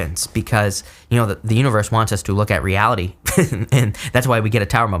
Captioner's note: laughs